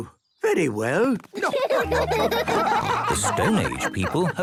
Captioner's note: laughing